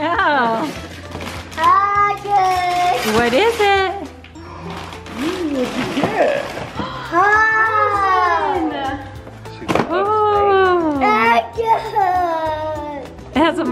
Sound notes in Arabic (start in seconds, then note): 6.7 تلهث البنات